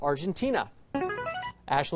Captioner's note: buzzer